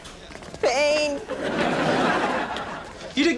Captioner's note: audience laughs